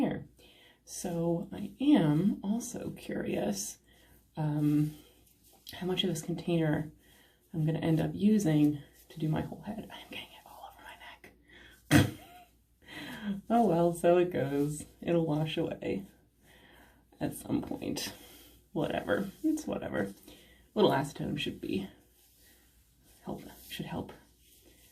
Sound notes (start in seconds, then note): 9.9 whispering